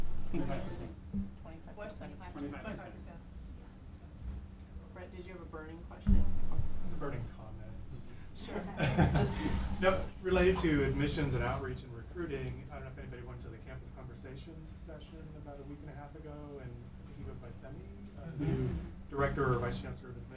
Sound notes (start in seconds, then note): 0.7 class murmuring; 8.5 laughing